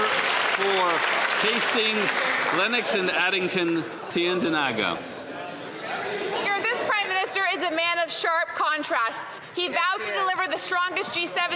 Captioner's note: some Applause